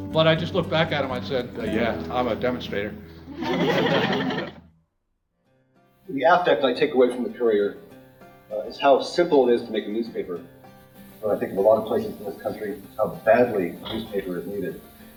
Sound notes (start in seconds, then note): 3.3 laughter